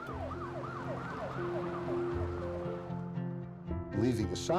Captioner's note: siren blaring